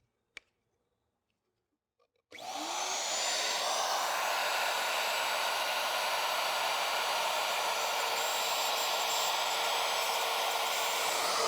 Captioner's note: saw sound